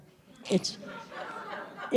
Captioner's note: laughter